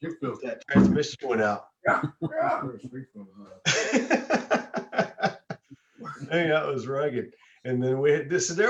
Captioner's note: laughter